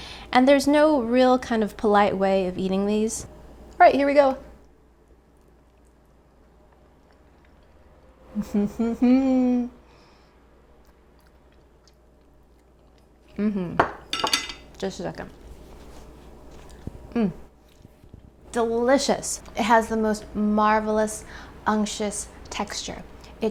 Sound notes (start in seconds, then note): 8.4 humming; 13.8 plate clatters